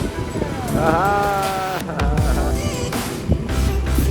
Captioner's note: laughing